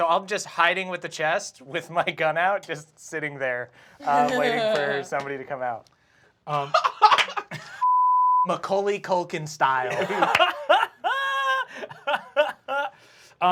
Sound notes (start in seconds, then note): 6.5 laughs; 9.8 laughs